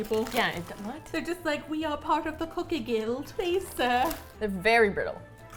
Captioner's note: English accent